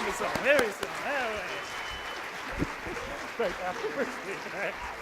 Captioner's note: applause